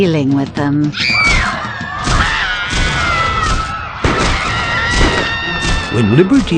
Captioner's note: screaming sounds